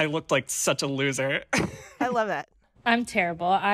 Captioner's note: laughter